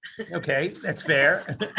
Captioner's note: laughs